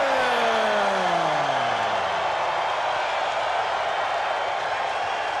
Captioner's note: spectators cheering